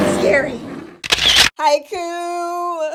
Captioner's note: sound of camera